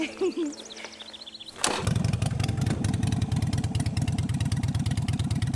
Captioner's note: motorcycle starts